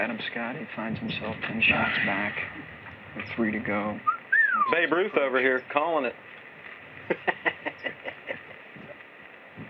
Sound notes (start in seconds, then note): 4.0 whistles; 7.0 laughs